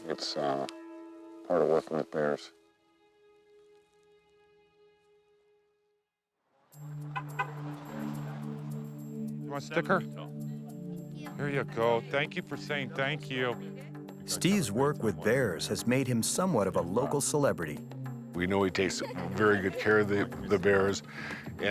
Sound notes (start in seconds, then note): 2.7 soft dramatic music; 6.7 bright music; 6.9 horn honking